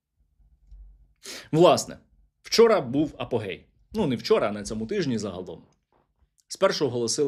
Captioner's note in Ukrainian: сопіння